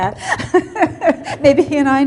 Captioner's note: laughter